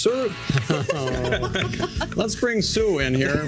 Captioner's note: laughter